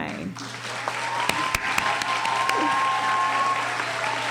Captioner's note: cheering